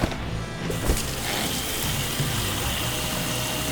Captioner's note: water running